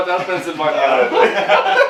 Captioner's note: laughing